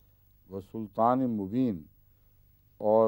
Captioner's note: Arabic